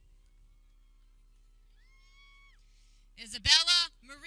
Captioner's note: people cheering